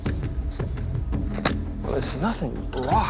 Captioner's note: shovel hitting rock